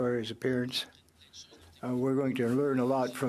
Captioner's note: speaking French